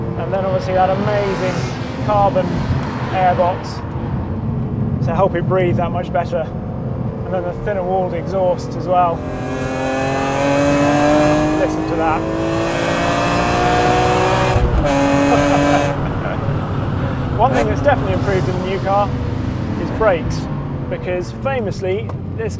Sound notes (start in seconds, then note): 9.4 car engine rasping loudly; 12.9 engine rasping loudly; 15.0 laughing